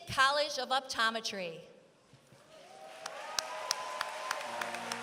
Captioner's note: applause